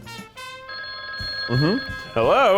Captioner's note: phone rings